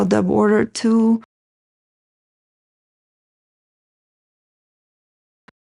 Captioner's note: silence